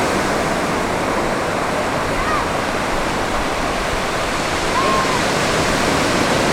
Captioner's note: crashing waves; seagull squawks